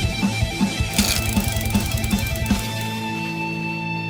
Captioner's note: gears clicking